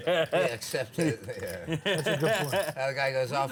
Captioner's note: laughter